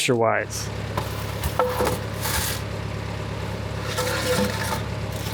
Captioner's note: machine whirring